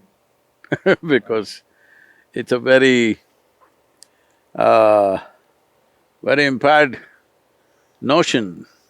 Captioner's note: laughs